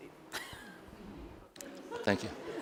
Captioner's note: laughs